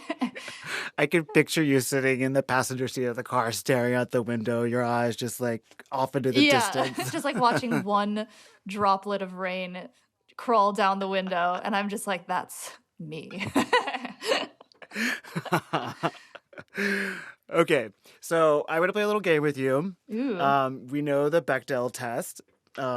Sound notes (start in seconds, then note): 0.0 laughter; 13.3 laughter